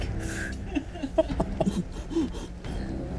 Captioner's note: laughs; suspenseful music